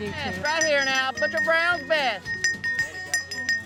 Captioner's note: cowbell ringing